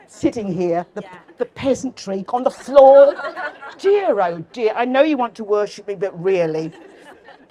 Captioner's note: laughter